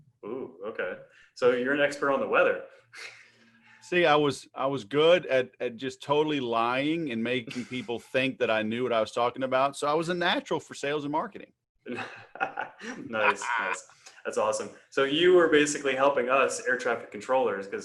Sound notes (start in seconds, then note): 11.9 laughs